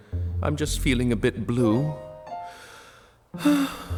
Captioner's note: heavy sigh